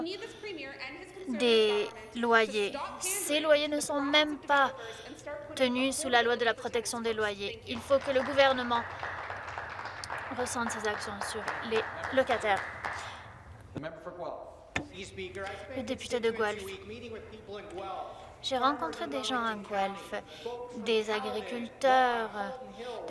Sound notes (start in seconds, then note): 12.1 applause